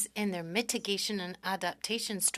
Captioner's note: speaking French